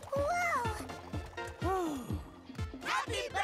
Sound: sighs

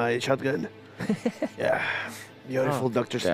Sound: laughter

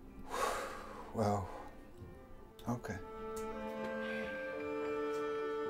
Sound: exhales sharply; dramatic music

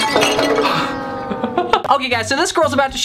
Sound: glass clattering

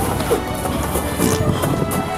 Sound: fart

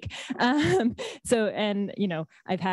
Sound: laughs

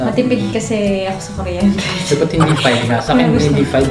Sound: laughs

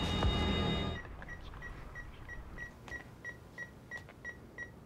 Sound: beeping

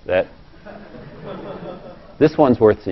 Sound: laugh

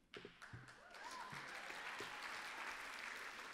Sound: applause

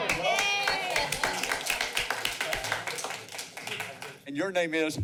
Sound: applause

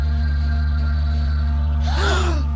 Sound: all gasp

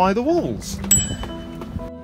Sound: ding

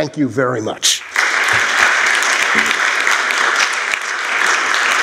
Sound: applause

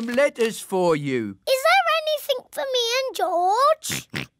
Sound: oinks

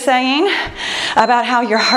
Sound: timer beeps

